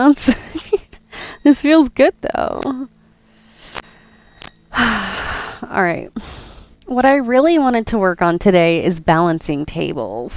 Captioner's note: exhale